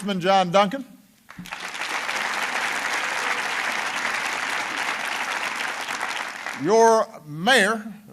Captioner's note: applause